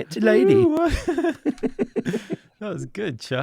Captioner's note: laughs